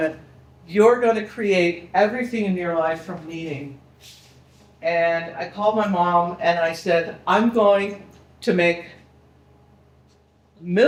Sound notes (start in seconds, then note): none